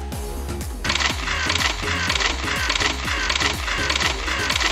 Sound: camera shutters

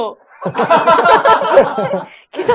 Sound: laughs

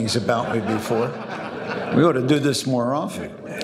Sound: audience laughing

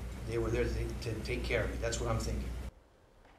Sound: speakin through interpreter

